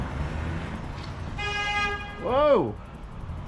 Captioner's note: honk